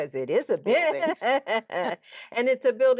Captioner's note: laughing